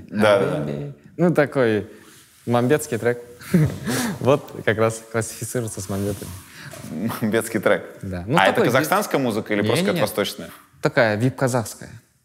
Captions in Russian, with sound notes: — Да-да-да. — Хаби-би… Ну такой мамбетский трек (смеется). Вот как раз классифицируется с мамбетами. — Мамбетский трек? — Да. — А это казахстанская музыка или просто какая-то восточная? — Не-не-не. Такая вип-казахская.